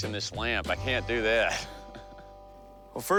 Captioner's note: laughs